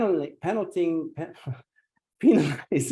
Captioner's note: laughs